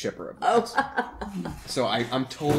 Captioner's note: laughter